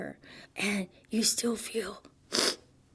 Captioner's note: sniffles